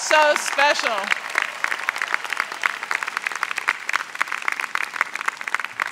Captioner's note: crowd applauds